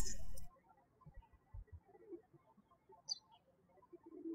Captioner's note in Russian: птички щебечут